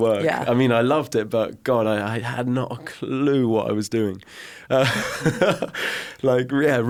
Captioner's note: laughs